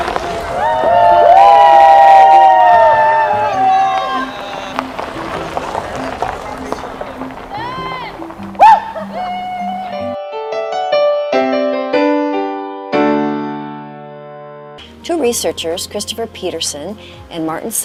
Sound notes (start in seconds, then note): 3.9 people cheering